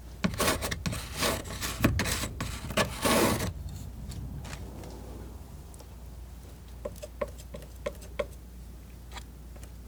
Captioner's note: scratching